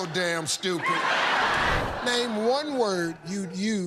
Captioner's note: laughter